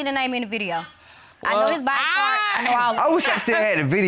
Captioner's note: chuckles